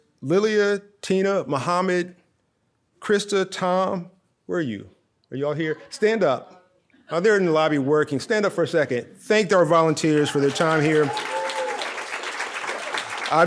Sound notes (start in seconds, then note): 6.4 audience murmurs; 9.9 audience cheering